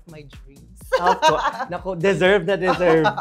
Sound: laughs

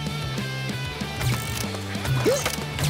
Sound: grunting; laughing

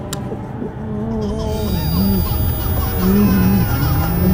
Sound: infants crying; moaning

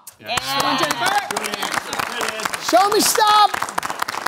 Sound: cheering/applause

